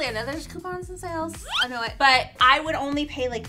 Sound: whimsical zoom

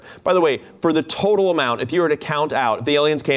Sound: none

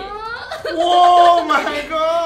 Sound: cries

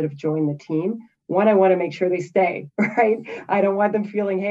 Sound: chuckles

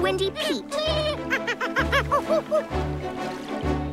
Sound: monkey sounds

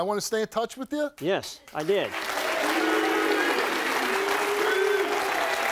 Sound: audience applauds

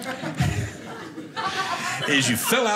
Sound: audience laughing

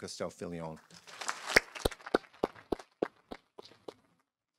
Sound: audience applauding

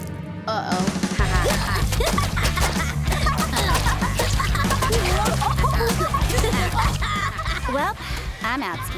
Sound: laughing

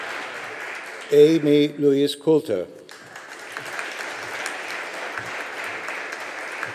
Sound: audience applauding

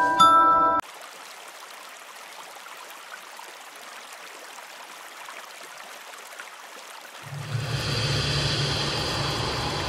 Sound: creek flowing

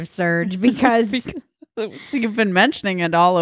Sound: laughing

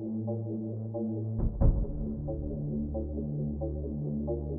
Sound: knocking

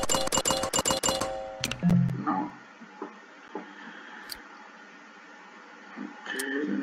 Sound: click

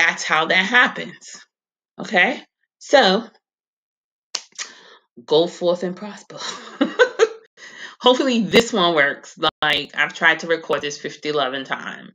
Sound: giggles

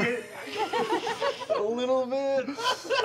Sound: laughter

